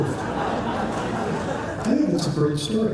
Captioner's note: laughter